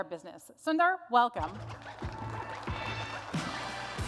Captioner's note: applause